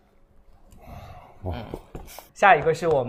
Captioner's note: sighs